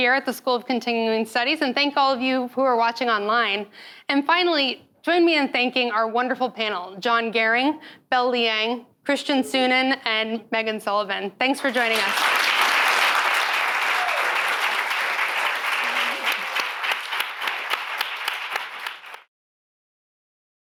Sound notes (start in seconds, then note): 11.6 audience clapping